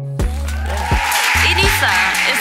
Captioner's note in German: Jubel, Applaus